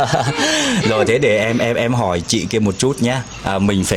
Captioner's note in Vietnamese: tiếng cười